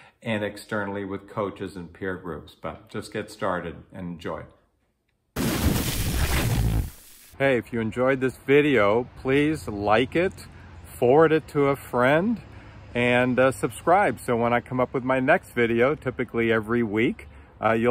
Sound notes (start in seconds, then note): 5.4 dramatic electric buzz